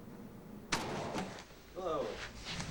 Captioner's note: loud bang